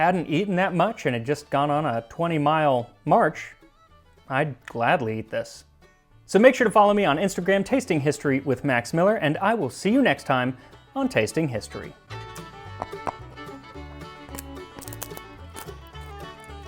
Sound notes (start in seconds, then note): 14.2 munch Munch; 14.2 chomp Chomp